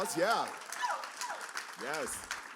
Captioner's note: cheers and applause